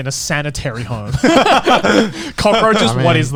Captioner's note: men laugh